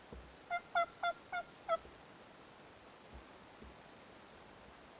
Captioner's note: turkey calling